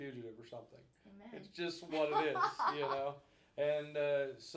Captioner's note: laughing